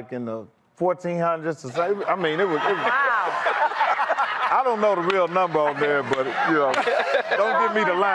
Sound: laughter

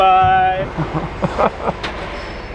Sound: laughs

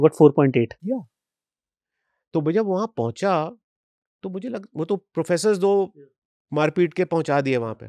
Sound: speaks hindi

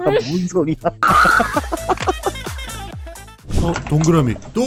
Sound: laughter

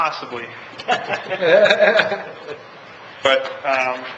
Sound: laughs

